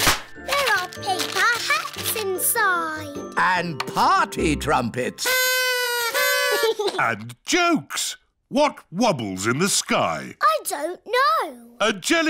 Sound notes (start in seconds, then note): 5.2 blowing